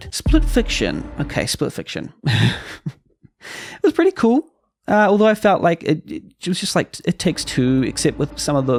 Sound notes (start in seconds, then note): 2.3 sweats, light chuckle; 3.8 nervously, unconfidently